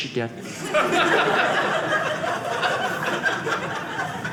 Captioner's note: audience laughing